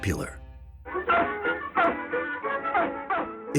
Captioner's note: barking